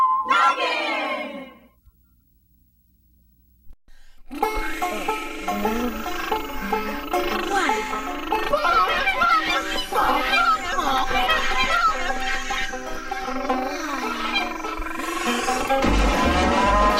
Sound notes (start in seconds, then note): 4.3 banjo music plays; 8.5 chattering